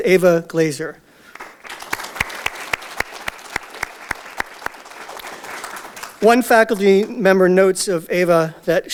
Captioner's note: audience Applause